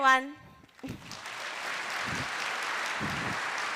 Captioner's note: applause